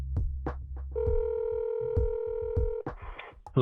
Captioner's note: phone ringing